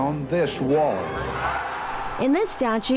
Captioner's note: crowd cheering